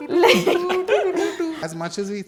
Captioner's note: laughing